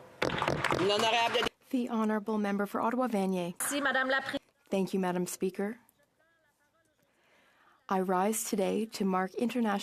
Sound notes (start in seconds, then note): 3.3 applause; 5.4 speaking in French